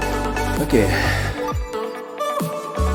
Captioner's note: exhales